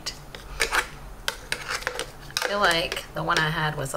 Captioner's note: spoon taps and scrapes